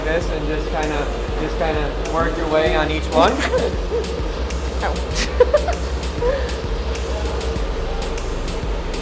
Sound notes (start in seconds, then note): 5.8 laughs